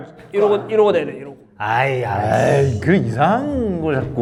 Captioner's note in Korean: 야유